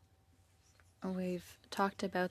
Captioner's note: speaking French